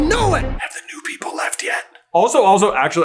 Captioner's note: sotto voce